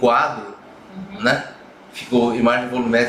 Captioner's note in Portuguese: murmúrio de afirmação